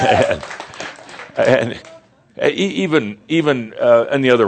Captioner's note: audience laughter and cheers